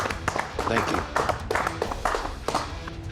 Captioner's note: clapping